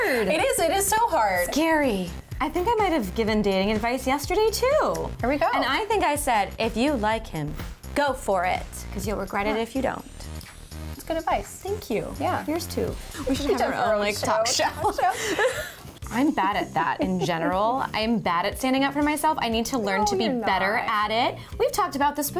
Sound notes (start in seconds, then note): 13.6 laughing